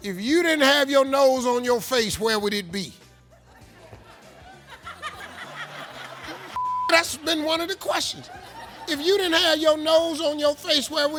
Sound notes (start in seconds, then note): 3.2 audience laughs